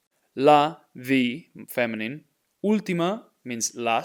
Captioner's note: speaking in Spanish